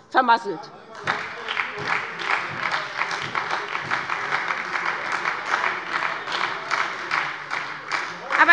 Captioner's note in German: Beifall bei der SPD - Zurufe von der CDU